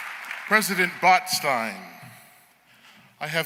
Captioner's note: applause